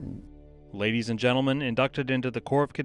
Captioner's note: voiceover